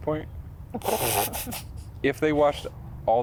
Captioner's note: laughs